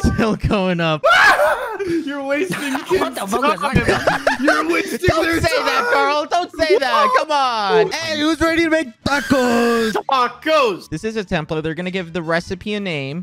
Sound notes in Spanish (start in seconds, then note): 1.0 gritos incomprensibles